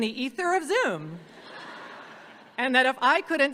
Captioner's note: audience laughs